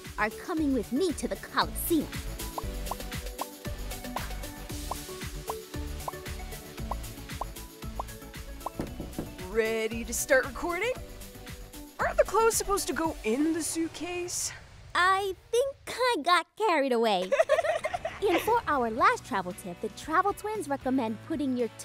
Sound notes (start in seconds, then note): 2.7 upbeat music; 8.6 Michael knocking; 17.2 both giggling